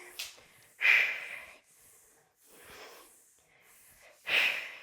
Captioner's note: breathing sharply